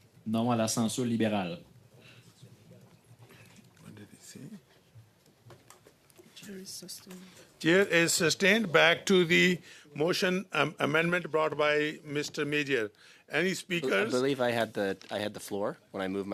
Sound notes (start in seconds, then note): 8.5 speaking French